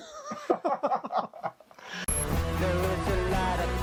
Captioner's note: laughs; both laughing